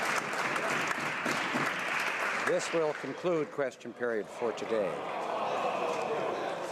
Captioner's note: some Applause